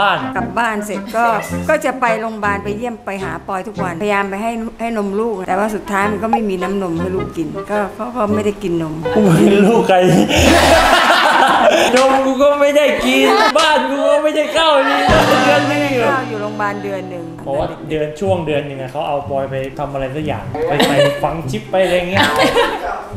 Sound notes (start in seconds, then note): 10.1 burst out laughing